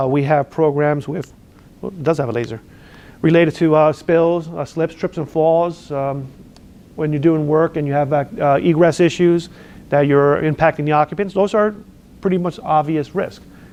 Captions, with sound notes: We have programs related to spills, slips, trips, and falls. (lip smacks) When you're doing work, and you have egress issues that you're impacting the occupants. Those are, pretty much, obvious risks.